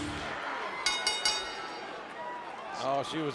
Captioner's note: bell ringing